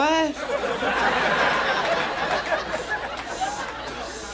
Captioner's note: audience laughs